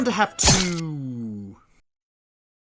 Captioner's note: stabbing sound, finally